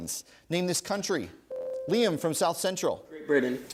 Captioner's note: ding